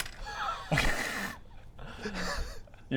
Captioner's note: poorly hidden amusement